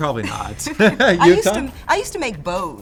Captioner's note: laughs